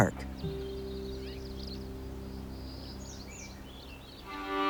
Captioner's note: birds chirping